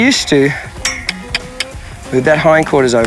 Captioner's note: mouth clicking